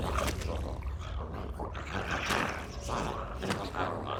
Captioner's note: dramatic music continues; zombie growling